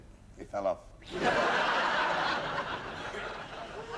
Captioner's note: laughter